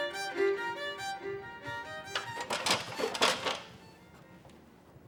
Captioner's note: ladder clanks